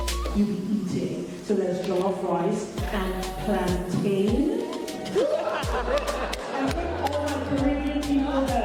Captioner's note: crowd laughs